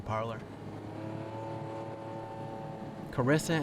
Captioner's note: engine revving